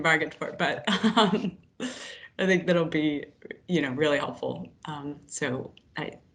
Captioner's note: laughs